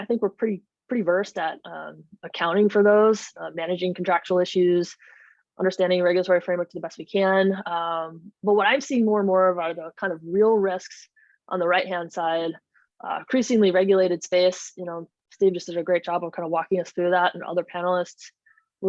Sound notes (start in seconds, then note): none